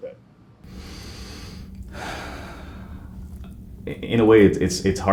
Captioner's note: sighing